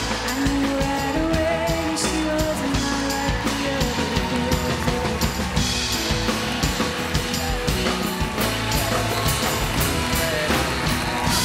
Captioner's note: cheers and applause; applause